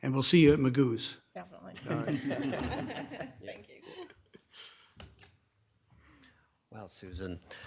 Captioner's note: audience laughing